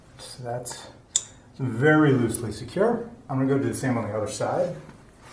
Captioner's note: none